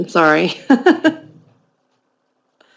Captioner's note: laughter